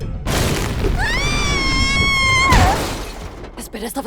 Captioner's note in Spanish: Molly gritando